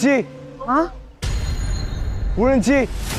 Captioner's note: drone